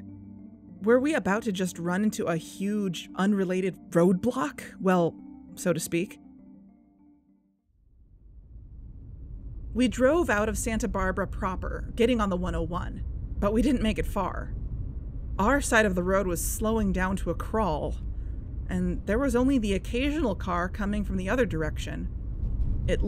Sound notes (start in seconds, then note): 6.1 music ends, driving ambience fades in